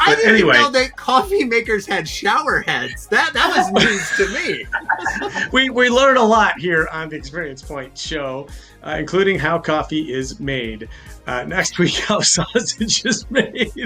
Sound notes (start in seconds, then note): 3.4 all laugh; 12.4 laughs